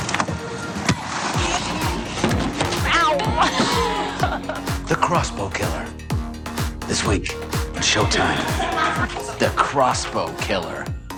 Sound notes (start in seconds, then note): 1.3 laughs; 7.9 crew laughing